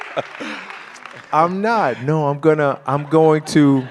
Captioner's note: audience laughter